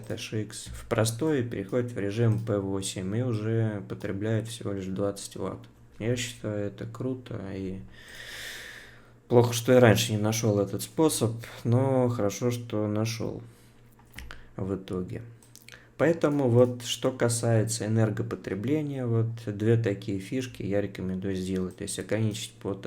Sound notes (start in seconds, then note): 8.0 sighs heavily